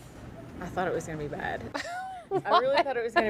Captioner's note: laughter